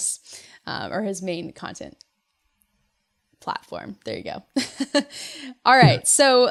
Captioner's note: laughs